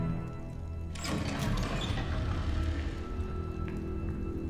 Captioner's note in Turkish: Kapı açılma sesi